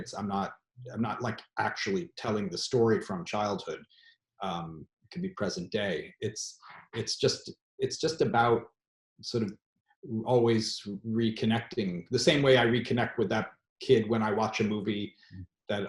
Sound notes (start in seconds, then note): none